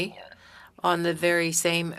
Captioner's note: speaking French